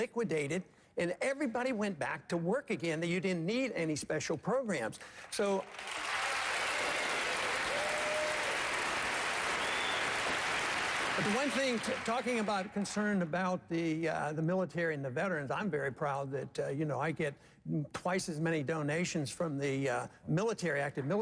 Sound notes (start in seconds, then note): 6.8 applause